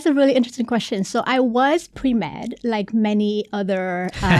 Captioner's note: laughing